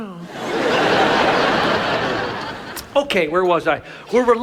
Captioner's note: audience laughs